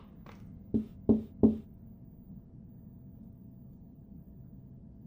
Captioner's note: knocking from above